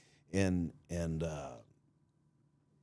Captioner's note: none